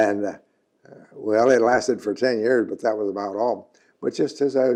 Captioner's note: laughs